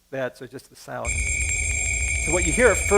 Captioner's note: ringing sound